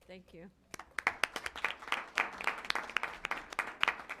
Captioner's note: applause